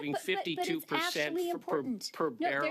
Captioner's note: laughter